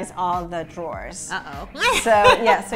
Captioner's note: laughs